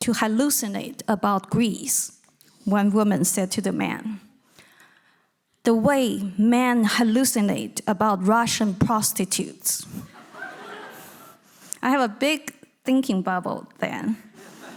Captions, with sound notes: to hallucinate about Greece," one woman said to the man, "the way men hallucinate about Russian prostitutes." (audience laughing) I have a big thinking bubble then: